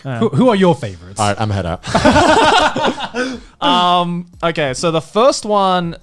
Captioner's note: laughs